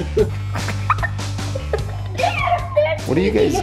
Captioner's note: laughs